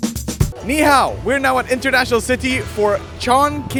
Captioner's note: upbeat music; speaks Mandarin